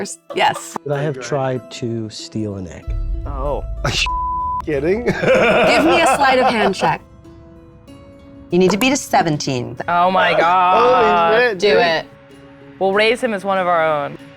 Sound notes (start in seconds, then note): 4.0 beep; 5.0 laughs; 7.1 tense music